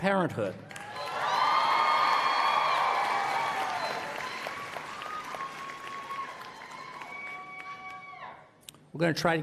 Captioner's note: applause